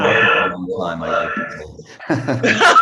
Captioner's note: laughter